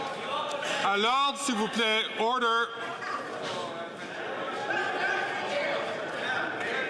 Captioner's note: some Applause